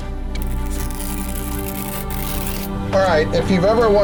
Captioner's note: plastic tearing